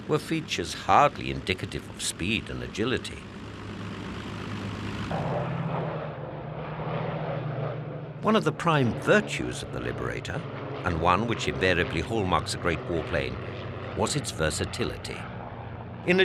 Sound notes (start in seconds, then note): 4.0 plane roaring